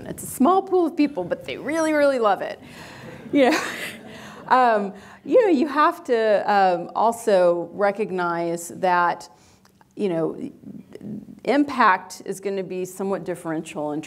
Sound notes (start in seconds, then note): 2.6 audience laughs